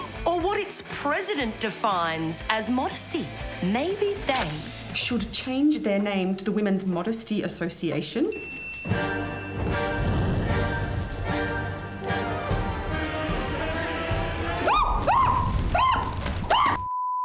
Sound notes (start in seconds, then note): 10.2 dramatic classical music; 14.2 burning and crackling